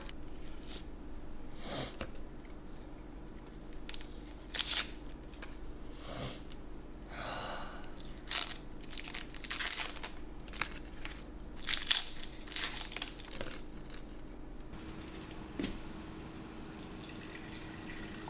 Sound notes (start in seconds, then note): 5.9 sniff sniff